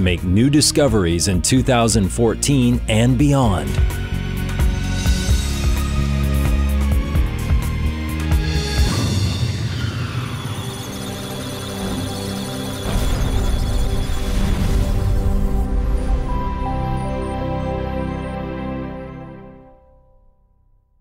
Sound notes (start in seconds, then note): 8.4 musical Tones; 9.7 electronic Sounds of Data